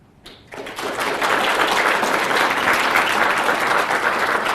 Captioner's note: applause